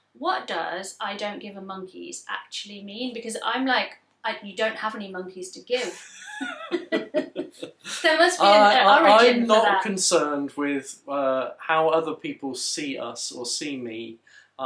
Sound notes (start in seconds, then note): 5.7 they laugh